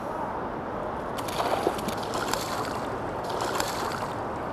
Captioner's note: splashing